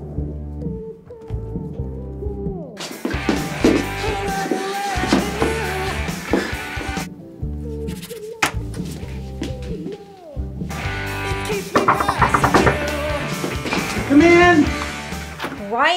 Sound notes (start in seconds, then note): 11.6 knocking